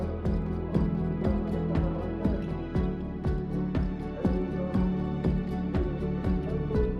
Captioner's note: gentle music continues; people chanting